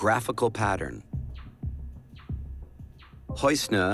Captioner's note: beeping continues